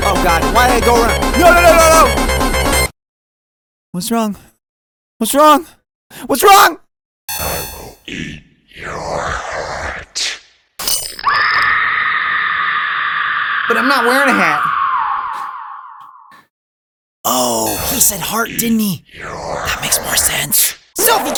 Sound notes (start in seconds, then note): 10.4 slash; 11.2 screaming